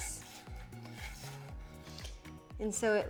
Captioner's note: knife chopping